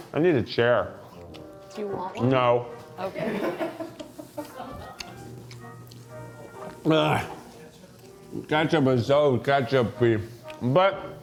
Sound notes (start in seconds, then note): 3.3 crew member laughs